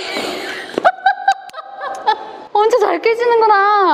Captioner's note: laughter